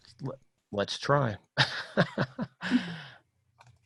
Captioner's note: laughs